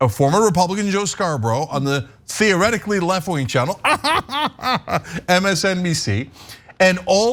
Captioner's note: laugh